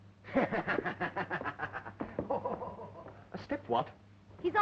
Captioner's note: laughing